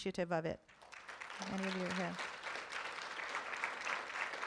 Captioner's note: room applauds